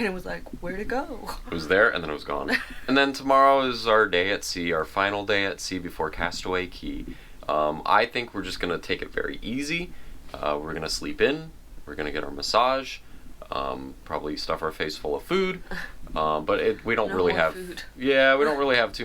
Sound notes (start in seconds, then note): 2.4 laughs; 16.0 giggles